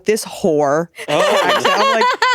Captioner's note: laughing